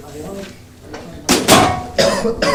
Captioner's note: clanging; coughing